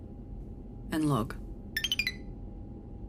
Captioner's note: beeps